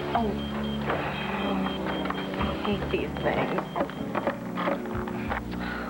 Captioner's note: pager beeps